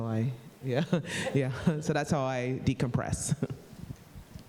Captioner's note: laughs